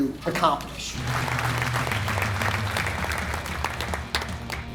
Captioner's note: audience claps